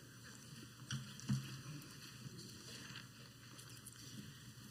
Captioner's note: footsteps